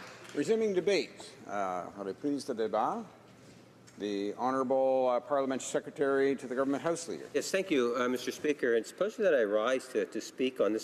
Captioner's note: applause